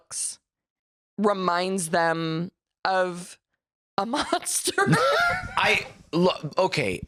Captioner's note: laughs